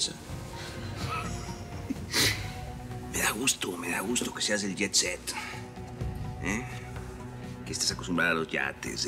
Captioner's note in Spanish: risas